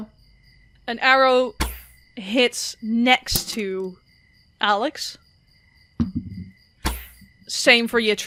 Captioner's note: arrow whooshes past and lands; dice thunks